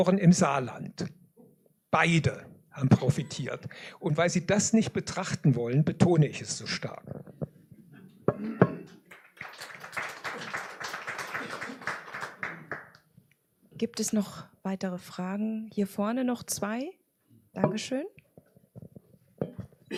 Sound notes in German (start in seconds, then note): 12.7 applaus; 19.8 räuspern